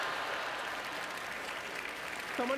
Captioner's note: audience laughter